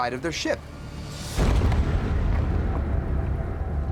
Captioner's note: dramatic music; ship thuds